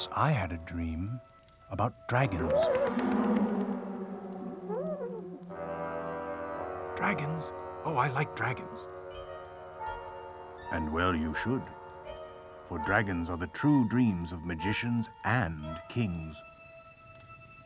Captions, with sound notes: Once I had a dream about dragons. (owl hooting) Dragons, oh I like dragons. And well you should. For dragons are the true dreams of magicians and kings.